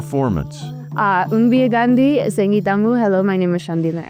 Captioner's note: speaking in Hopi